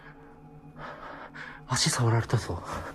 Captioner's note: heavy breathing